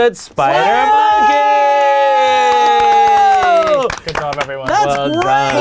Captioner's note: all cheering